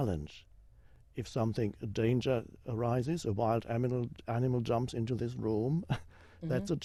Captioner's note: chuckles